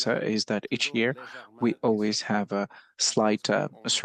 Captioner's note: speaking French